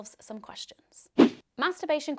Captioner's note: swishing